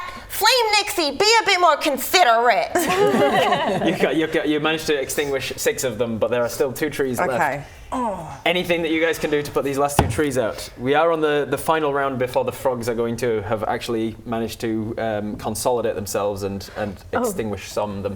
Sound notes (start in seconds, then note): 2.8 laughing